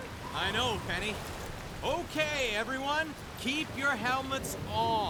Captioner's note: none